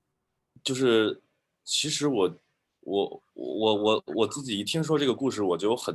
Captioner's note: speaking in foreign language